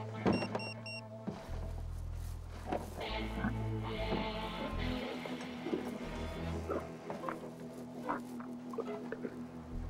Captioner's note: beeping